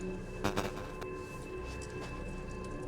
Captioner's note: tense music continues; static buzzes; tense music continues